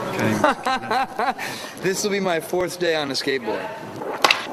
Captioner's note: laughs